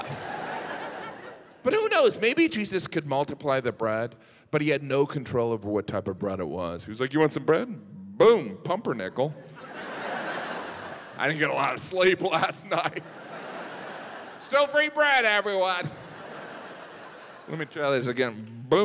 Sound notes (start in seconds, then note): 0.0 audience laughs; 9.4 audience laughs; 13.2 audience laughs; 16.1 audience laughs